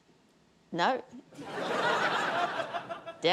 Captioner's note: laughter